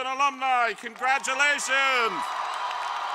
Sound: applause

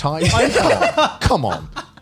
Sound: laughs

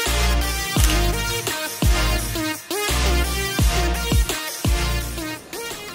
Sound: camera beeps and clicks

